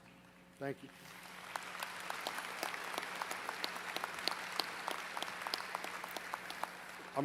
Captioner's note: applause